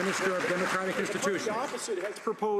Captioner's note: some Applause